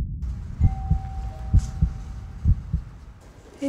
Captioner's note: doorbell rings